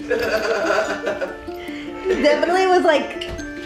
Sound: laughs

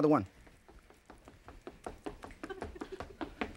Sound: feet tapping; audience laughing

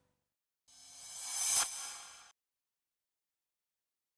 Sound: swish

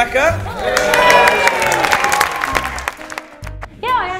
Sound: hello's and applause

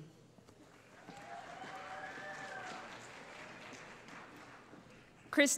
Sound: cheering

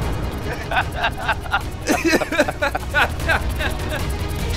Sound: laughing

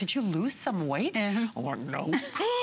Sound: laughter

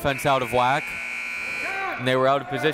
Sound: buzzer

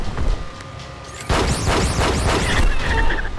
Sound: shooting

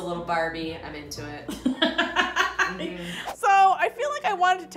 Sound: laughing

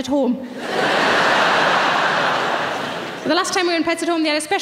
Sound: audience laughing

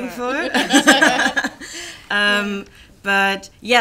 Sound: laughter

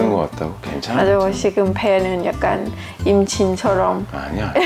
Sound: laughing

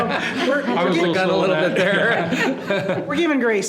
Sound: people laughing

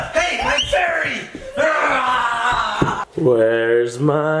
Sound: yelling

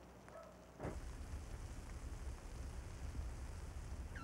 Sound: food sizzles

